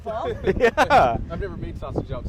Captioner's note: laughs